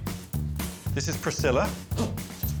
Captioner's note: door hinges creaking